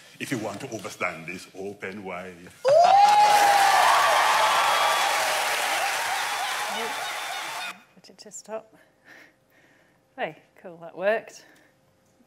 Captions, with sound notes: If you want to overstand this open wide [cheering] [applause] -Put it to stop. Hey, cool. That worked.